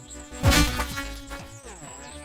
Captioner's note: splat!